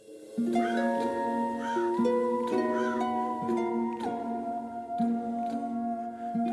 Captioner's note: spooky music; crow cawing